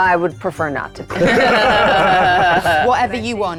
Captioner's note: players laughing